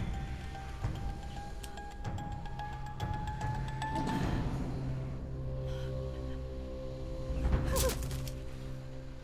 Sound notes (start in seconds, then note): 0.0 suspenseful music; 4.0 breath shaking